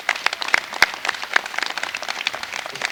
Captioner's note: applause